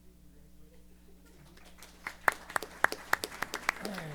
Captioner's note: applause